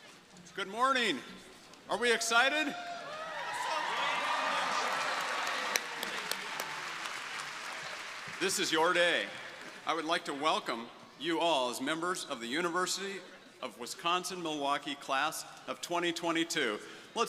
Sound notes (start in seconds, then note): 3.0 crowd applauding